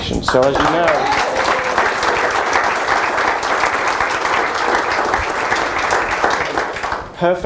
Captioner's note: applause